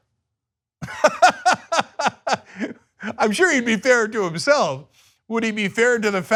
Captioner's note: laughter